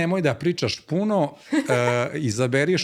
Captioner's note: laughter